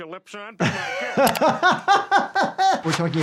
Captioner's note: laughs